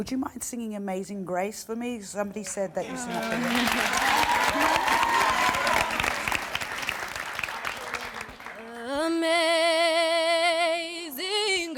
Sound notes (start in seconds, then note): 2.8 applause